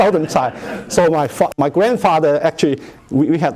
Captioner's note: laughter